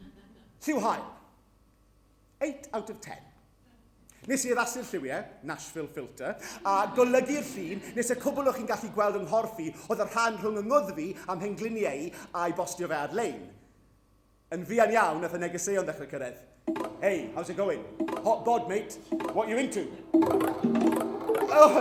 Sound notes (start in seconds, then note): 16.6 grindr pings; 19.9 multiple grindr pings